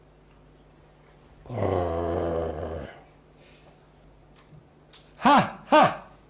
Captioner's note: growls